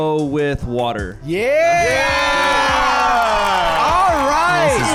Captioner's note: crowd cheering and clapping